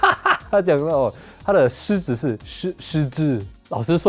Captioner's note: with an accent